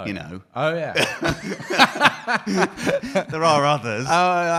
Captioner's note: both laughing